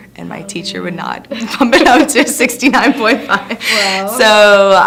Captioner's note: laughing